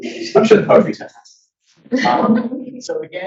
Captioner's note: audience laughs